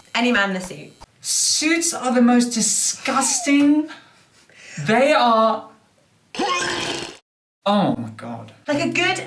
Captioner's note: retching sound